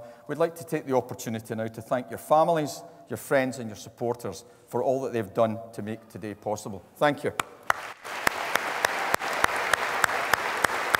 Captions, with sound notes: we'd like to take the opportunity now to thank your families, your friends, and your supporters for all that they've done to make today possible. Thank you. (APPLAUSE)